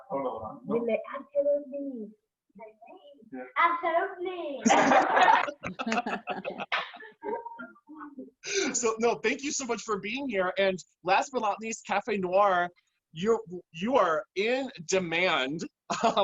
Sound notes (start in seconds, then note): 0.1 speak in spanish; 4.6 laughter